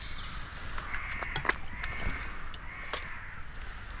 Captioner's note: crows cawing